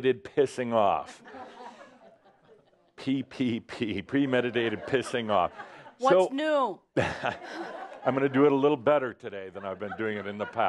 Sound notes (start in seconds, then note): 7.0 more chuckles